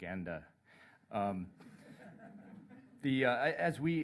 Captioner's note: laughter